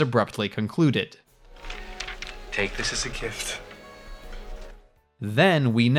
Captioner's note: paper crinkling